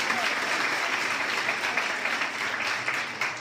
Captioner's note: crowd cheering